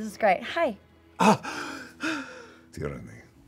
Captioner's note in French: soupire